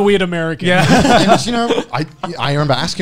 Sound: group laughs

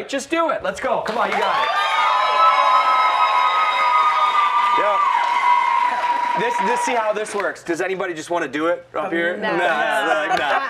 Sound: cheers and applause

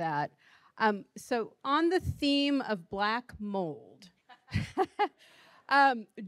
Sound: laughing

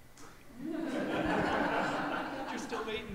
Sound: audience laughs

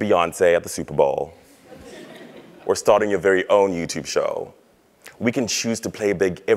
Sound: laugh

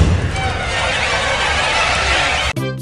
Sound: geese squaking

